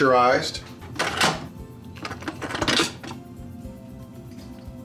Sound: mechanical clicking

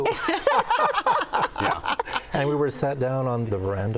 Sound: all laughing

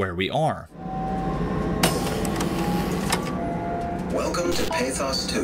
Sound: in-game audio

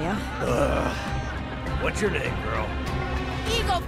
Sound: groans

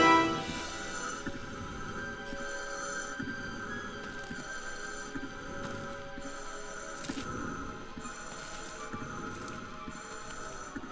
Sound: breather ventilates

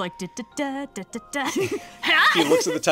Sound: laughs

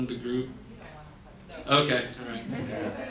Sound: audience murmurs and laughs

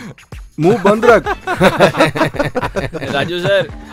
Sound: laughs

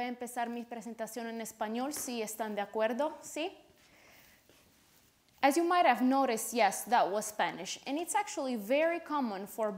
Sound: speaking Spanish

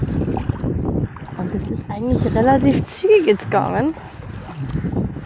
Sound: wind

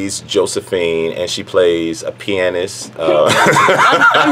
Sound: laughing

